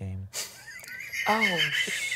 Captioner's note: laughs